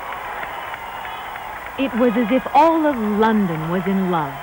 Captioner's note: crowd cheers and applauds